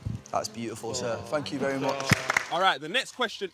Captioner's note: participants clapping